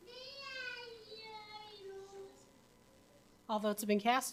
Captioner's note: child shouting